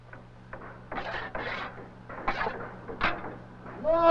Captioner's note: scraping noises